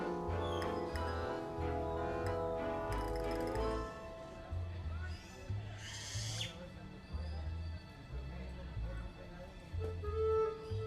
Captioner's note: background noise fx